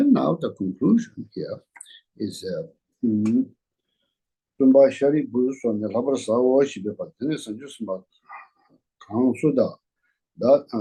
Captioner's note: reading the Tibetan text